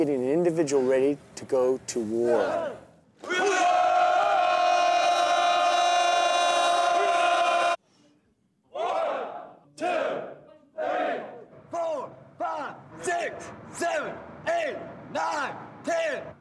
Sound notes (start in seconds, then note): 3.2 yelling